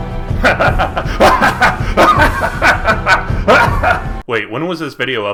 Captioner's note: hearty chuckle regarding the brilliance of this evil plan